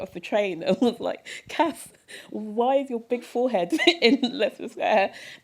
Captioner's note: chuckle